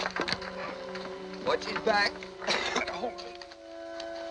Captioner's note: coughing